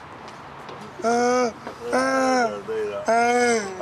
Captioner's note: groaning